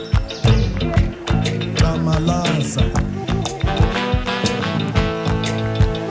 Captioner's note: speaking foreign language; birds chirping